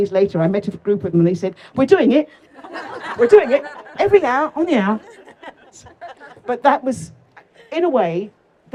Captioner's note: laughter